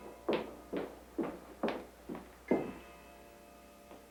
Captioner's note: church bells chiming